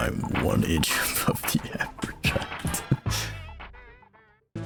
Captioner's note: laughs